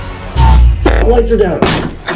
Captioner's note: powers down; door breaks open